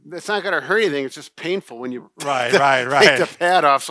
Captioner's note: laughs